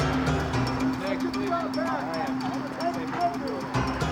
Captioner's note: indistinct chatter